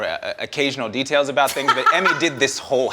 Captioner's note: Emmy laughs